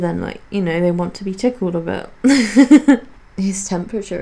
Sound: laughs

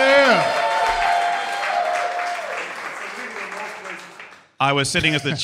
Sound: crowd cheers

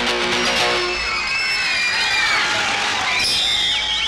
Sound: all Cheering

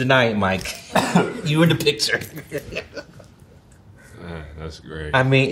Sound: laughs

